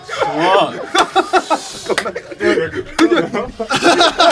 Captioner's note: laughing